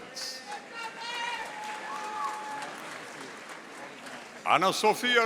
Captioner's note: audience applauding